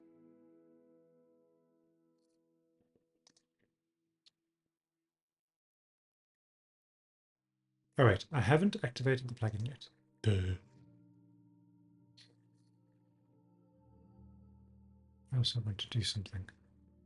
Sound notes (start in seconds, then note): 10.2 burps